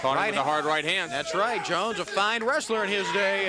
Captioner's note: crowd chatter